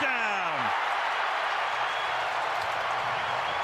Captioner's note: crowd cheering